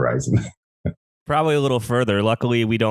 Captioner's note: laughs